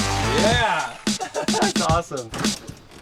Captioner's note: chuckle